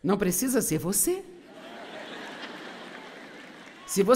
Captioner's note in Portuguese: audiência aplaude